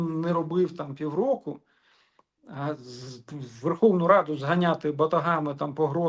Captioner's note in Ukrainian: сопіння